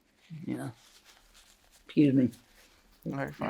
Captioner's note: paper crinkling